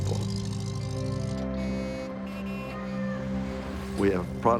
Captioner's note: car horns